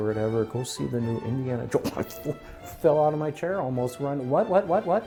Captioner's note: makes startled sound